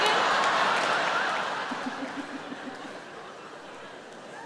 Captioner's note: audience laughing